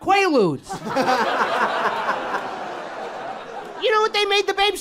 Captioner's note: people laughing